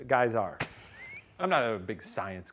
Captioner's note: laughs